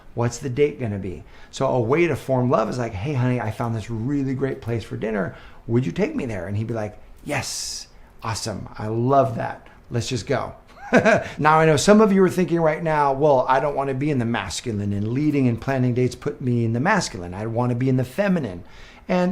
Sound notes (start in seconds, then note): 10.7 person laughing